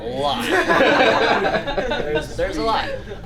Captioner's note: laughing